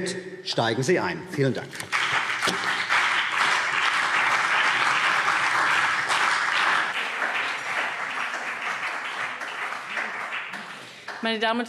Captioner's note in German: Beifall CDU und BÜNDNIS 90/DIE GRÜNEN